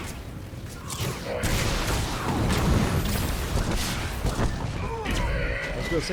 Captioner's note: gunshots